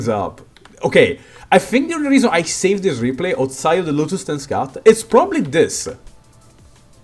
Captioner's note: breath